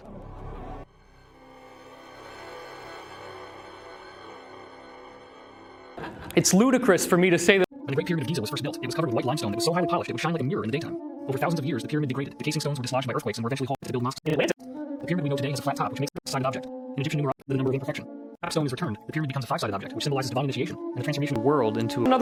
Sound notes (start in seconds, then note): 0.0 disturbing synthesizer; 7.7 Hyper-Accellerated David Wilcock Pyramid Babble